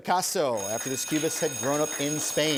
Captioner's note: bell ringing